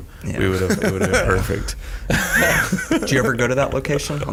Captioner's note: all laughing